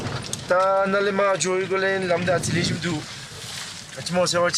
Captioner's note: dzongkha spoken audio